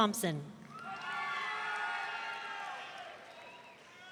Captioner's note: audience cheering